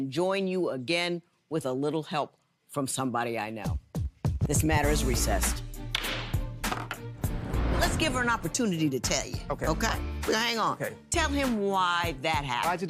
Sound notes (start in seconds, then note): 5.6 gavel banging; 6.5 dramatic music